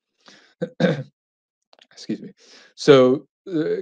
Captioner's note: clears throat